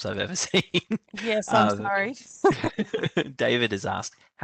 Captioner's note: laughter